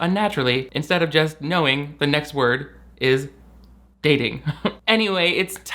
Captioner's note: laughs